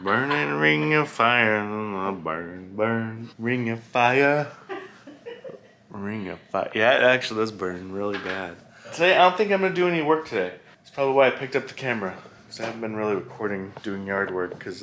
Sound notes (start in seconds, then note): 0.0 laughs; 4.6 laughs